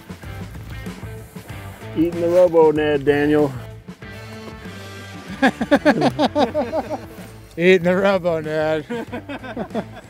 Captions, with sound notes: Eating the Robo Ned, Daniel. (Everyone laughs) Eat on the Robo Ned.